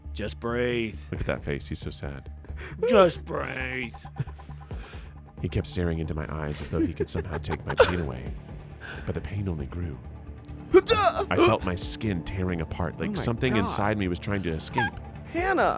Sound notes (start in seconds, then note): 10.7 grunts